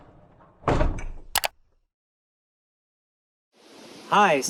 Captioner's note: logo clunking